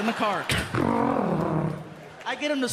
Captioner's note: imitates engine revving